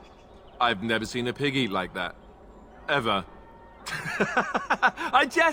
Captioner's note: laughs